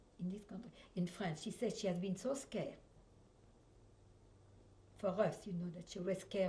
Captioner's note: pauses for 3 seconds